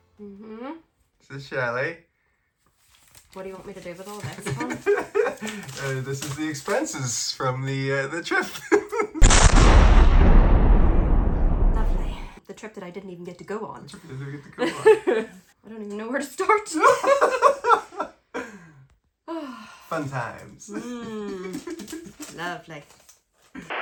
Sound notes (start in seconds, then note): 8.7 laughs; 9.2 explosion echoes; 14.6 laughs; 16.8 both laughing; 16.9 sighs